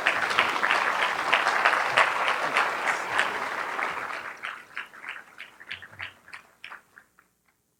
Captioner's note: applause